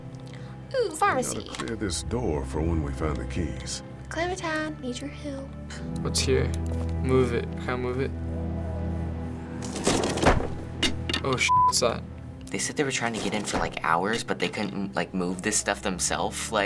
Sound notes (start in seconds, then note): 4.0 southern accent; 9.6 object clatters